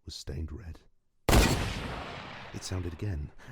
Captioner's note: gunshot sfx